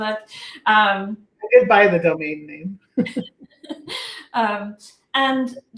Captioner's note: laughter